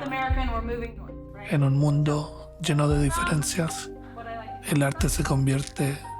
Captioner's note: narrator speaking Spanish